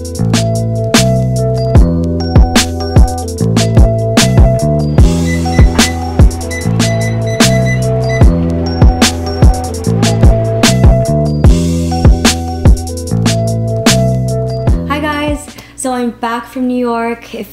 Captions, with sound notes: (upbeat music) (exercise machine beeping) - Hi, guys, so I'm back from New York,